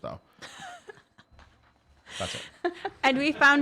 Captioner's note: laughs